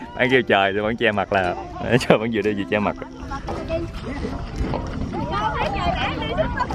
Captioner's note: laugh